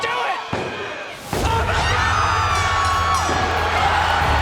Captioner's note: loud cheering; bell dinging